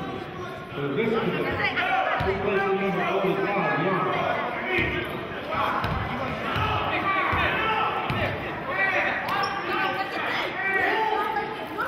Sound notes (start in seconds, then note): 7.4 yelling